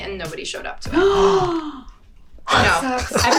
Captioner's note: Emma gasps